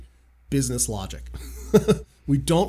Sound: laughs

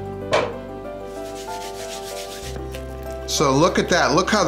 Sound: hands rubbing

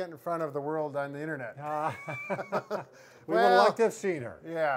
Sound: both laugh

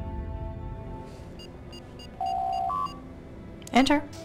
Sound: door Chime

